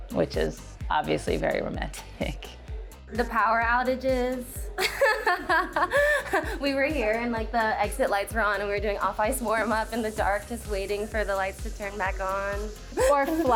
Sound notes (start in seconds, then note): 4.7 laughing